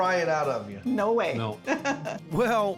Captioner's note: laughing